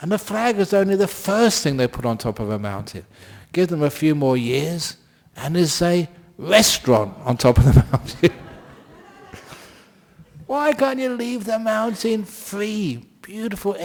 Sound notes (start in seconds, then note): 7.5 laughter